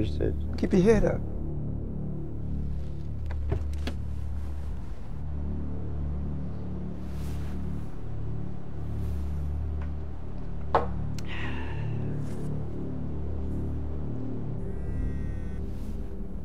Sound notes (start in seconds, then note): 11.2 Tony sighing; 14.6 phone buzzing